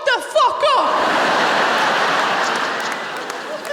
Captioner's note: laughter